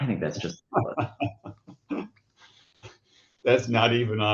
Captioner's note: laughs